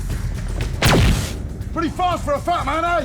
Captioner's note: gunshot